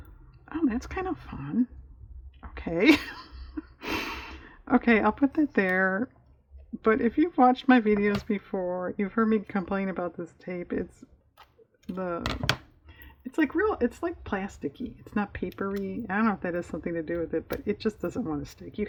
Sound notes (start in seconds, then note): 2.8 laughs